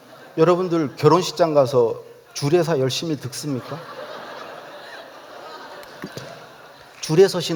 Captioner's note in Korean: 웃음